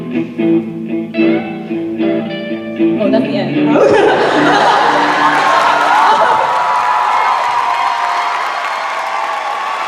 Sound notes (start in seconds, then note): 3.7 laughing; 3.7 audience laughing; 5.9 cheers and applause